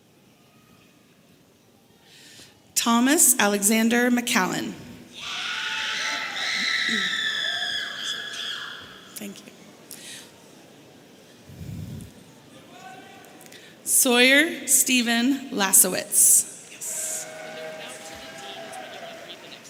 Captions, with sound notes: Thomas Alexander McCallan. (woman screaming) Sawyer Steven Lasewicz. (audience cheering)